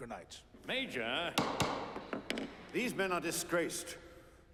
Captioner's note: bangs gavel